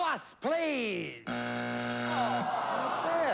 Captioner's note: buzzer